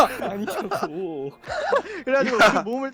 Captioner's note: laughing